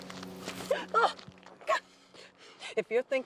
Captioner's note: Eleanor yelps